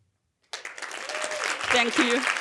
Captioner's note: audience applauding